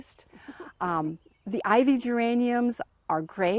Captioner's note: laughs